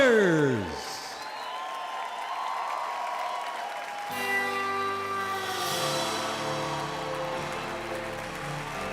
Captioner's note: applause